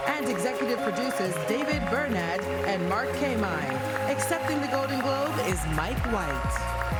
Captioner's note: applause